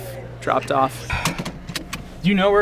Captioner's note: buttons being pushed